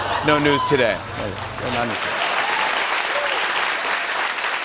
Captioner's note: applause